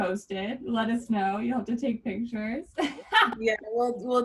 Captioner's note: laughs